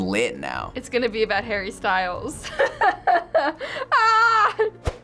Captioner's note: laughs